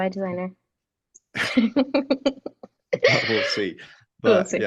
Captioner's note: laughing